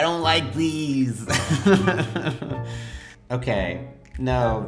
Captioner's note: laughing